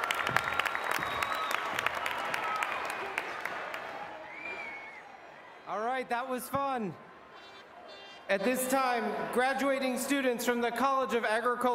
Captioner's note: applause